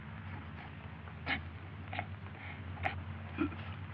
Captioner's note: Pete choking